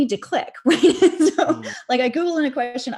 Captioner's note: laughs